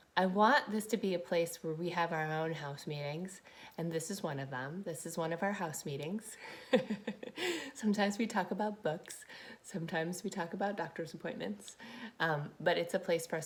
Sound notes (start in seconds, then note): 6.4 chuckles